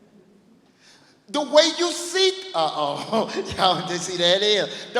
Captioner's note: laughs